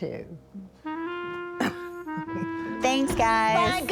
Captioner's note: laughs